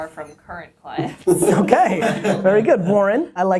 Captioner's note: laughter